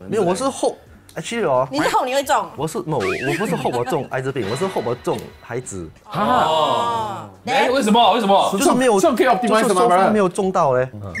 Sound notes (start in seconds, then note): 5.6 Ohh